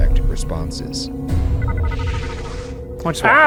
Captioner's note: alarm chimes